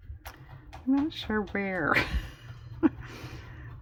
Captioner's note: laughs